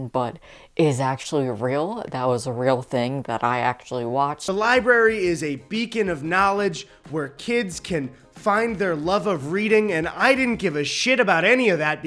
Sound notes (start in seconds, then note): none